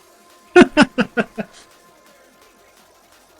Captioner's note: laughs